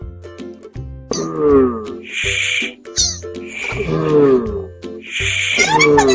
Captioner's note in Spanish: Sonido tortuga